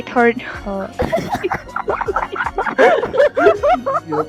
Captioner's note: giggles